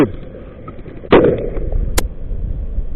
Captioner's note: boom